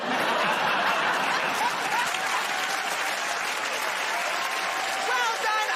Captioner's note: laughter